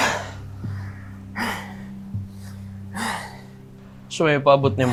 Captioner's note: Apo panting